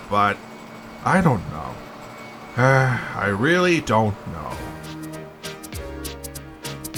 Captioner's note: sighs